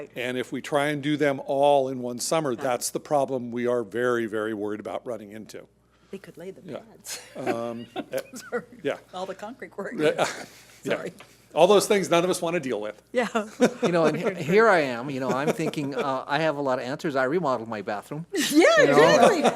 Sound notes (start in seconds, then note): 7.2 laughs; 9.9 speaking faintly